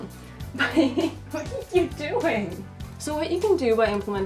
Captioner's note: laughs